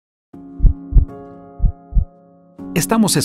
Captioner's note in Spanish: latido del corazon